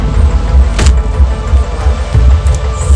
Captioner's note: gun Shot